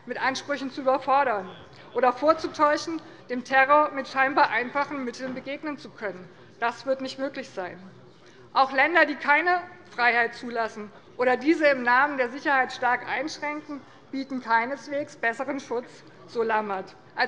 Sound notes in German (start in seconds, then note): none